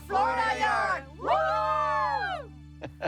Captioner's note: cheering; chuckling